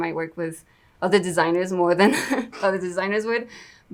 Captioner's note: laughs